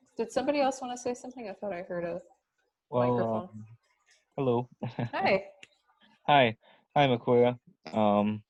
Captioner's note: several hellos